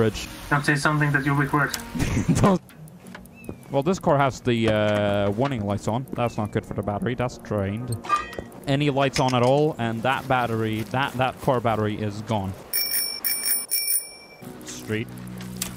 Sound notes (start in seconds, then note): 12.6 bike bells